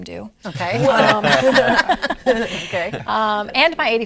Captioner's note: all laughing